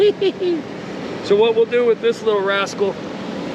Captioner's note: chuckling